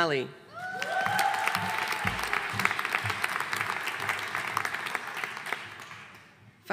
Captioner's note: audience cheering and applauding